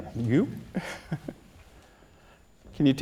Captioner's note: laughs